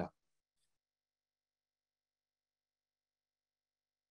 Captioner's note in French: silence